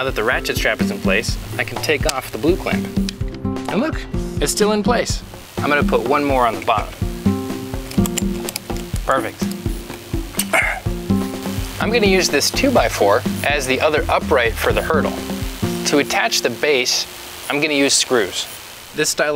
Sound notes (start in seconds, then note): 7.8 clicking; 9.6 straining